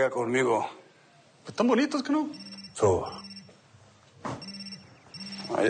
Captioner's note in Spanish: Suena el celular